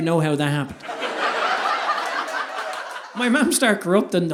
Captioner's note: audience laughing